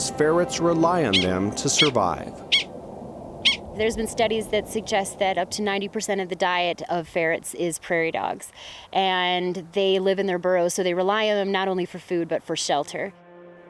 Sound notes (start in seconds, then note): 2.4 prairie dog barking